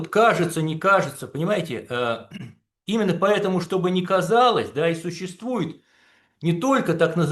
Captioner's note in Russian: откашливается